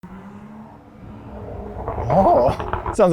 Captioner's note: car engine revving